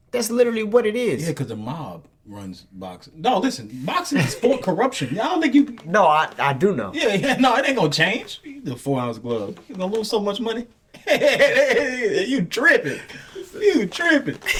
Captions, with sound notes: That's literally what it is. - Yeah, because the mob runs boxing. No, listen, boxing is for corruption. I don't think you-- - No, I do know. - Yeah, no, it ain't gonna change. - You're gonna lose so much money. (laughing) You tripping. You tripping.